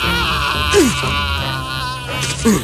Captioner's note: Screaming in pain